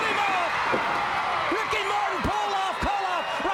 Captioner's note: crowd cheering